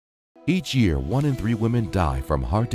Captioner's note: voiceover